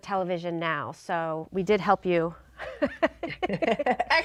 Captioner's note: laughing